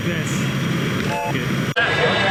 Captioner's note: train whistle